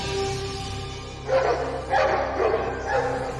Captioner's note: dogs barking